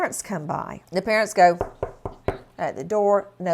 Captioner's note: knocking